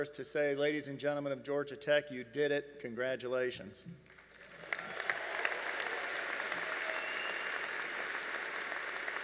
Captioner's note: applause